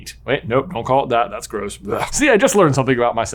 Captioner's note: retches